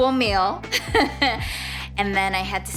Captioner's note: laughing